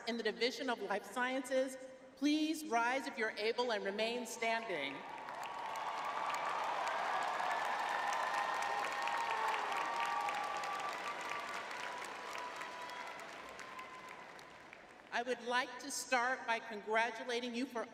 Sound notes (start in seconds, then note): 10.7 crowd cheering